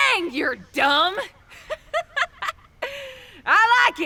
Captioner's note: laughter